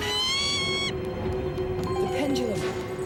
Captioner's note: loud cawing